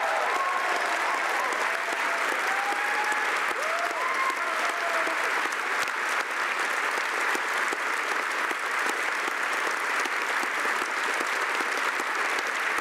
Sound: cheering and Applause

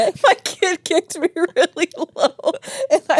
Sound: laughing; laughs

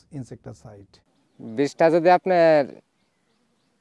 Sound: non-english speech

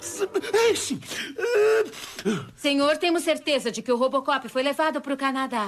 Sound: blows nose

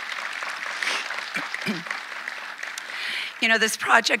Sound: audience applauding

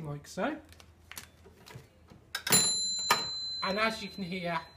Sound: bell in machine pings

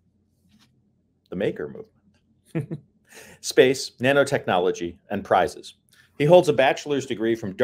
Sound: chuckle

